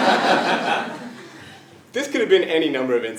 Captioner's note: laugh